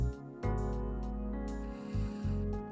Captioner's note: blows